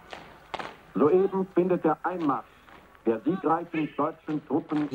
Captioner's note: German spoken audio